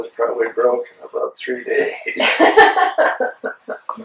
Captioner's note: laughter